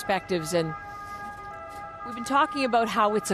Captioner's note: sirens